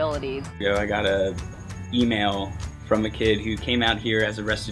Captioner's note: voiceover